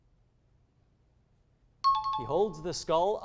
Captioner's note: high-pitched tones